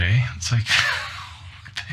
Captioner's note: choking